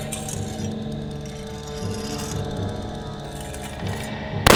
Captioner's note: blade slicing